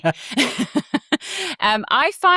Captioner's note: chuckles